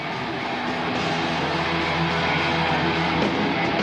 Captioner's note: crowd cheering